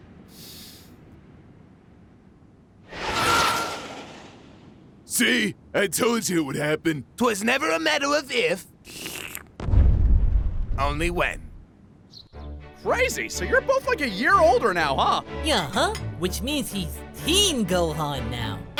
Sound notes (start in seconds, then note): 0.3 sigh; 8.8 sip